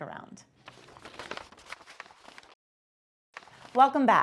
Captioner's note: paper crinkling